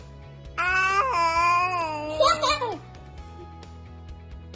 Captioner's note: baby cooing; soft music